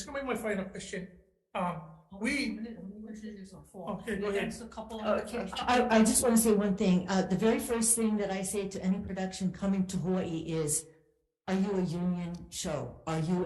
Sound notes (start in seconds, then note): 2.3 speaking, muffled